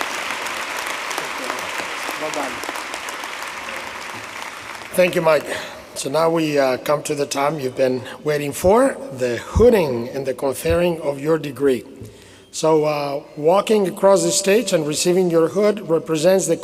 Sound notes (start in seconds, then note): 4.6 applause